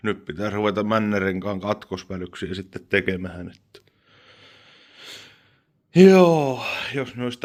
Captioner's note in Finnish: huokaus